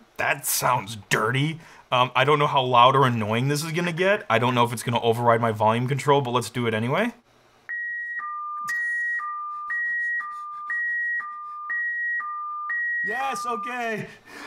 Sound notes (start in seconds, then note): 7.7 loud af beeps!!!